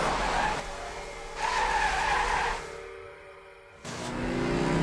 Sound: tires screeching

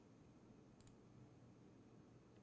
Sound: click

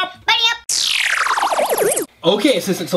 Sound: distorted static

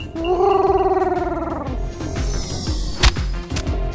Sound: Huti hoots

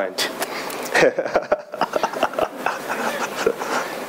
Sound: laughing

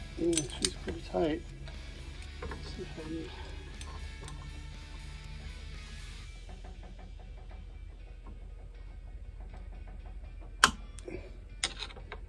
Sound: grunting

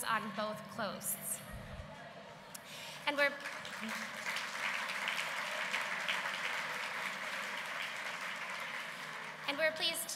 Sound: applause

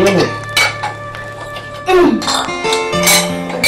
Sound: plates clattering

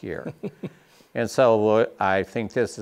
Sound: chuckling

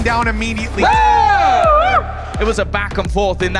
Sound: players cheering

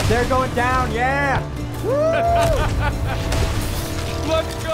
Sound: laughter

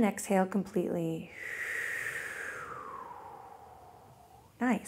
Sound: exhales

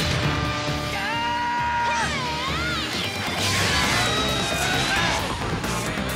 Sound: grunting

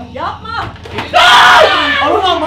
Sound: screams

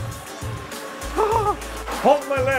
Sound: upbeat funk music; exclaiming in fear

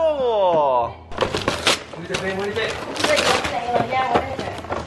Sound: paper tearing

